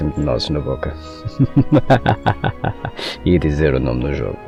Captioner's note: perverted laugh